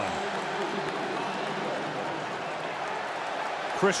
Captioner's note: pa announcement